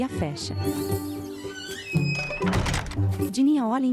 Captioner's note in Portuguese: Porta rangendo; Porta rangendo e fechando; Pássaros